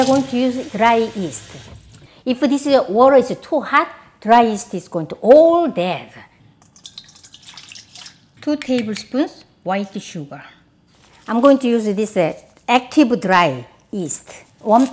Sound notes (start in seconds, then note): 6.9 water splashing